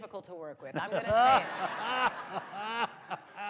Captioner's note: laughter